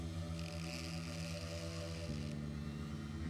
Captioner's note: soft grinding